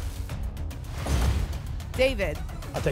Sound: thump; whoosh

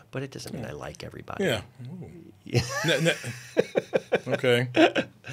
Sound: Pedro laughing

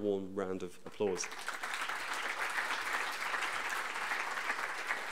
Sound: audience applauding

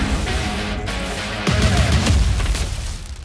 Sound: music crescendos; energy crackling

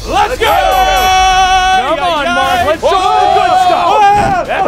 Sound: screaming

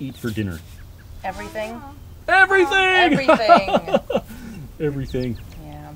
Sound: laughter

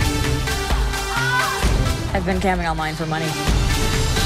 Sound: electronic dance music; woman moans loudly

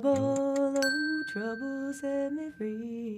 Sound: timer buzzing

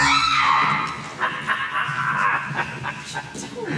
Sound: laughing

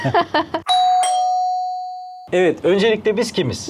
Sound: door rings

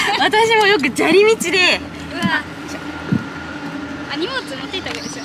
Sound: laughs

